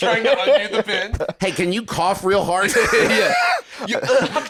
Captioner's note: laughs